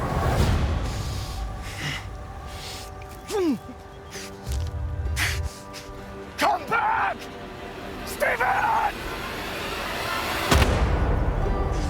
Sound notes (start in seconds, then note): 3.3 rogers grunts; 10.5 gunshot